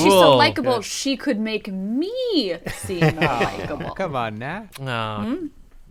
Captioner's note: laughter